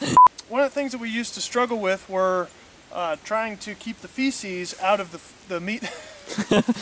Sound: laughter

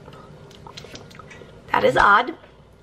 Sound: smacking lips

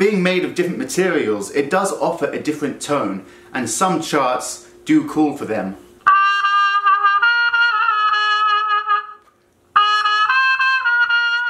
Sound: trumpet effect

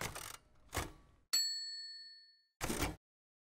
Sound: ding

